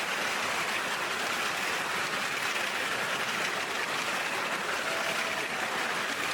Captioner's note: applause